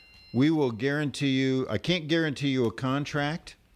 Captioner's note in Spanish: Hablando ingl\s